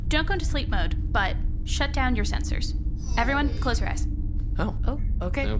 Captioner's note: sound of sensors powering off